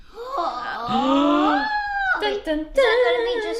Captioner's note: gasps